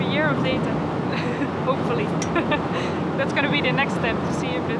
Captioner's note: laughs